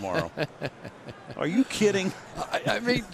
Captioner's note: laughs